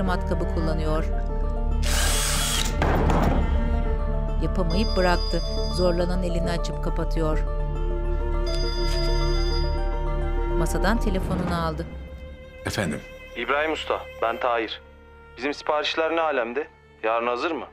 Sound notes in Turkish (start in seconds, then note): 1.8 Matkap sesi; 4.8 Telefon zili sesi; 8.4 Telefon zili sesi